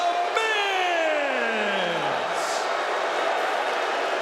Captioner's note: audience booing